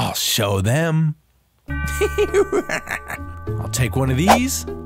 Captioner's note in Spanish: Grump ríe